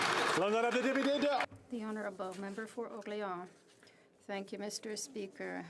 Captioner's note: applause